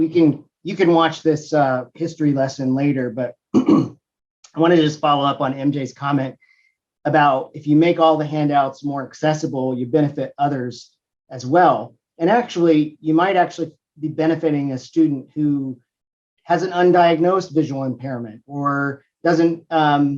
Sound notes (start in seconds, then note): 3.5 cough